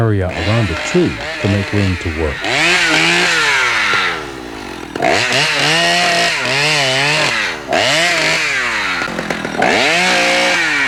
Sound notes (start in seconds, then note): 2.5 tool whirring